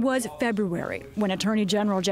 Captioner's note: voice-over